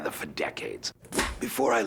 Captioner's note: clapperboard clap